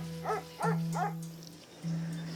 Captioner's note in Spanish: Ladridos